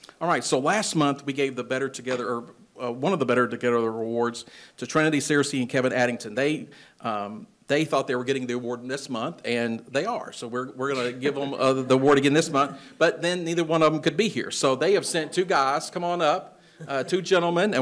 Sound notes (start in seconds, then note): 11.6 attendees chuckling